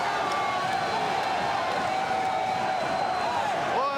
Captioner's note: crowd cheering